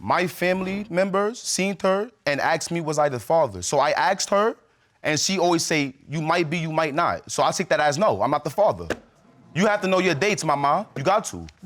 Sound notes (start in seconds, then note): none